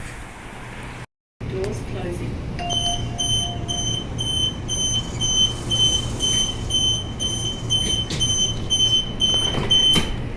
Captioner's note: beeps